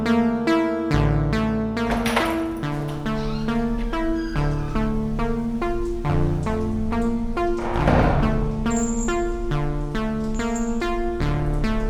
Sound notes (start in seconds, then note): 2.2 door opens; 3.7 door creaks; 7.9 door slams shut; 9.1 chain rattles